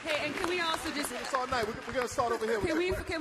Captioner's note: applause